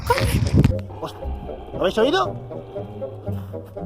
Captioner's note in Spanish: gruñido